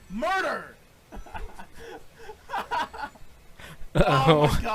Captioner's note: laughs